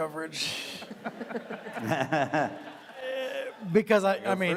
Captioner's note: audience laughing